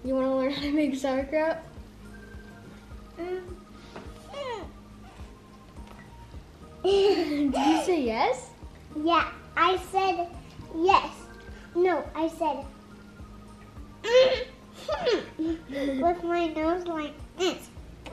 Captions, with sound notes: - You want to learn how to make sauerkraut? - (laughs) - Did you say yes? - Yeah I said yes no I said mmhmm. With my nose like this.